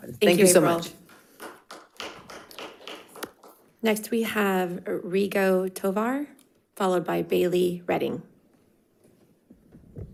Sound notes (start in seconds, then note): 0.9 audience applauds